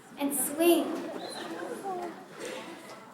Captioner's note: laughter